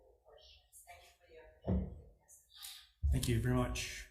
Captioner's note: faintly speaking